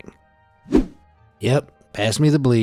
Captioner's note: image whooshing